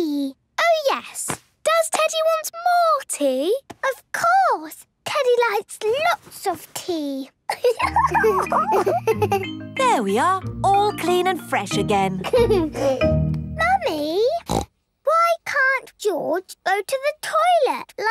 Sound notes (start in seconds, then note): 7.5 giggles; 12.2 giggles; 14.4 snorts